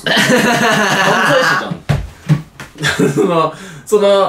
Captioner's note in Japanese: 笑い声